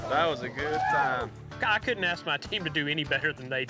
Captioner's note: all cheering